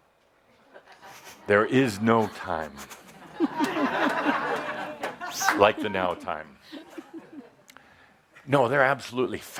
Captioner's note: laughter